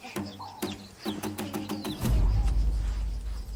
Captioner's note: birds chirping